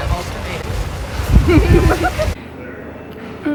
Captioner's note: laughter